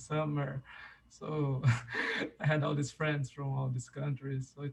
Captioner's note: chuckles